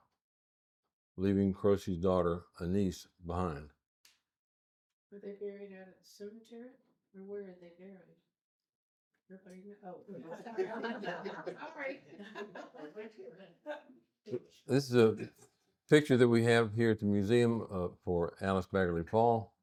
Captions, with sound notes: leaving Croce's daughter, Anise, behind. Were they buried at a cemetery? Or where are they buried? Nothing. (laughing) This is a picture that we have here at the museum for Alice Bagley Fall.